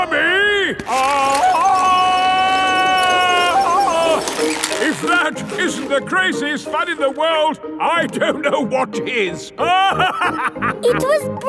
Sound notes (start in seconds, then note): 2.0 yelling; 9.6 laughing